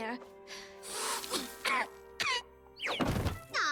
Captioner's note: blows, coughs